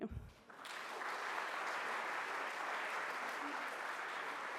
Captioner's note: audience applauds